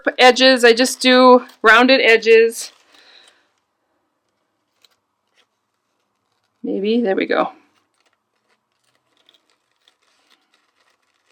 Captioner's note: cutting the Tissue paper